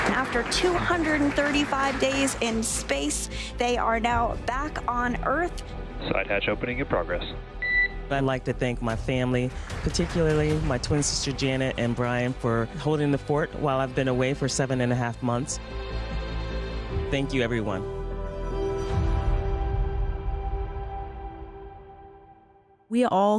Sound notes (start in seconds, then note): 6.0 mission audio; 20.1 music fades